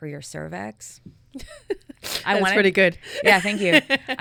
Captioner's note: chuckling